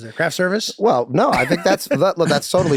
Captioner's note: Charlie laughing happily